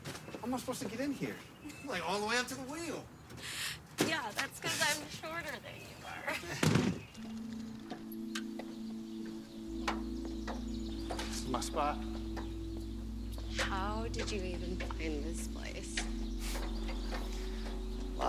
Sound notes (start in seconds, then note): 7.5 birds chirping; 7.5 soft music